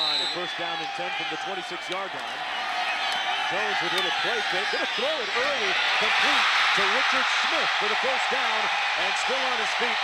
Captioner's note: cheering